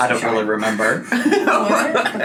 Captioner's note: laughs